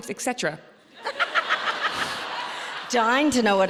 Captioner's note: audience laughing